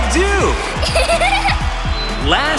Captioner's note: giggling